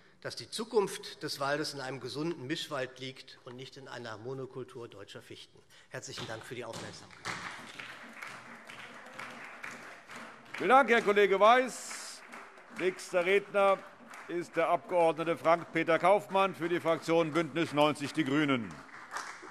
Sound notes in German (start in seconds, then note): 8.1 Beifall SPD